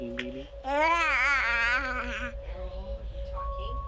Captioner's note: cooing